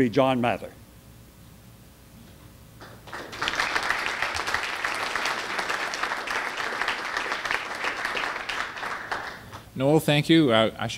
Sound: audience applause

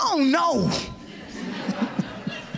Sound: laughter

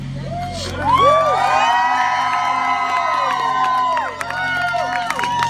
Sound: crowd cheering

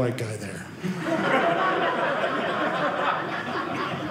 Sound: audience laughing

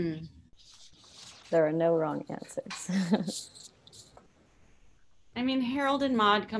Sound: chuckles

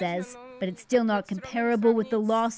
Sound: speaking Foreign Language

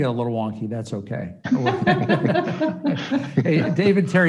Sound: all laughing

